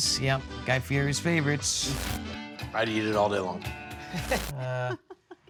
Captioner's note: static buzzing; everyone laughing